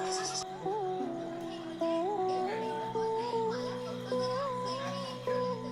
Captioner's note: sounds on TV